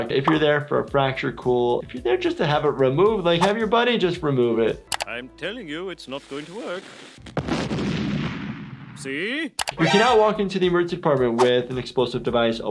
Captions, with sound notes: If you're there for a fracture, cool. If you're there just to have it removed, like, have your buddy just remove it. - I'm telling you, it's not going to work. (cannon fires) See? (alert sounds) - You cannot walk into the emergency department with an explosive device,